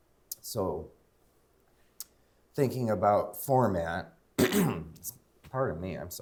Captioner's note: coughs